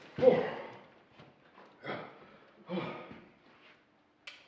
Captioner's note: heavy breathing